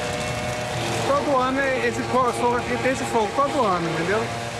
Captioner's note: Portuguese spoken audio